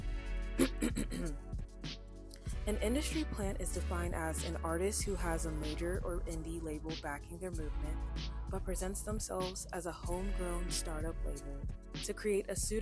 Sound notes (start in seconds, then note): 0.6 clears throat